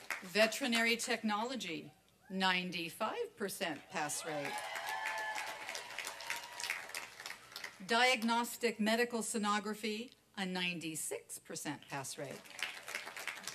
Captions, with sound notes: [APPLAUSE] VETERINARY TECHNOLOGY, 95 PERCENT PASS RATE. [ APPLAUSE AND CHEERING ] DIAGNOSTIC MEDICAL STENOGRAPHY, A 96 PERCENT PASS RATE.